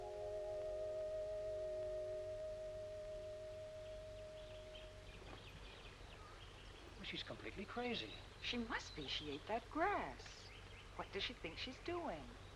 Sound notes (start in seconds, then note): 3.7 birds chirping